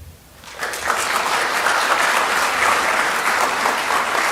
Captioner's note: applause